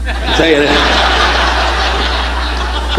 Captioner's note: audience laughing